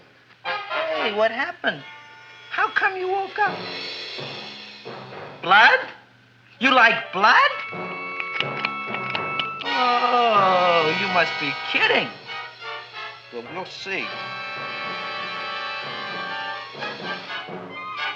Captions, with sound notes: Hey, what happened? How come you woke up? Blood? You like blood? (Audrey Jr. snapping) Oh, you must be kidding. Well, we'll see. (dramatic music)